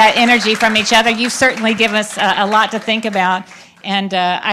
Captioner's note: applause